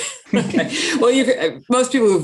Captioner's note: laughing